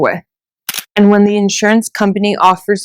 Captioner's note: camera shutter clicks